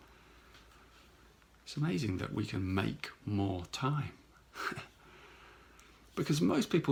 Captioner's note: chuckles